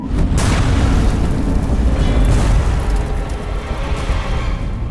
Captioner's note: explosions